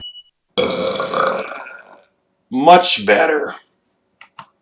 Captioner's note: burp